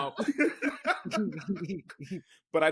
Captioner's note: laughing